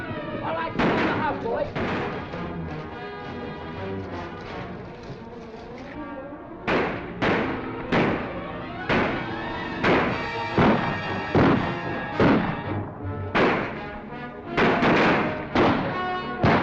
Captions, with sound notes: - All right, let's go, boys. [ GUNSHOTS ] [ GUNSHOTS ]